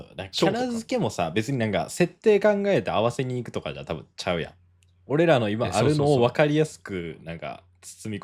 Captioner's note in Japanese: none